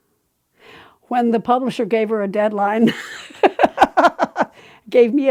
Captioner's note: laughing